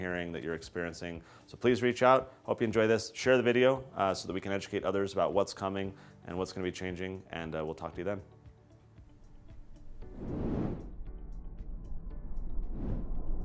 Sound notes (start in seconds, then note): 9.4 whooshing